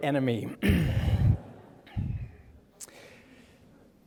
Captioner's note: audience chuckling